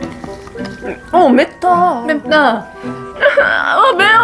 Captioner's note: hiccup